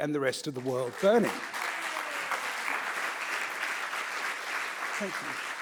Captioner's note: audience applauding